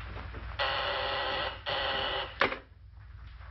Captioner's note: doorbell rings